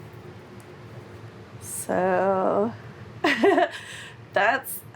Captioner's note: chuckles nervously